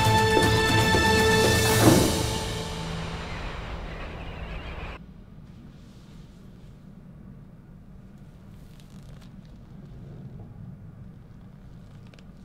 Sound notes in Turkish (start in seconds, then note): 5.4 Sessizlik